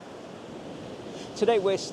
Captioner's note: waves lapping; wind whistling